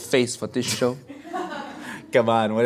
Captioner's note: laughing